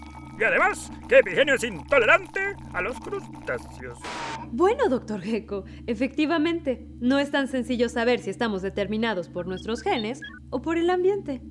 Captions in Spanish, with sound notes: y además que Epigenio es intolerante a los crustáceos [Estática] Bueno, Dr.Gecko, efectivamente no es tan sencillo saber si estamos determinados por nuestros genes o por el ambiente